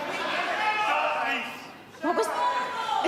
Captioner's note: audience shouts answers